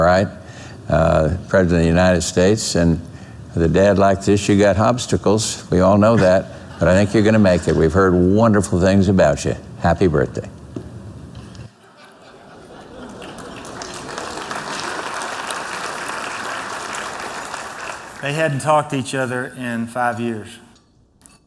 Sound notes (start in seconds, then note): 11.7 laughter; 12.8 applause